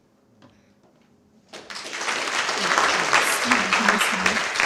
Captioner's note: applause